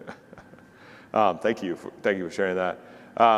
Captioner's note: chuckles